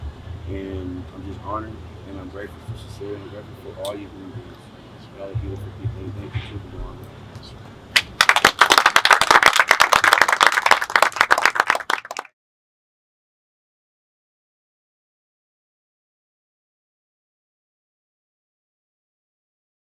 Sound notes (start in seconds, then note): 7.9 applause